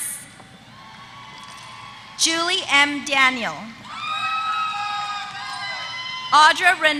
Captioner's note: applause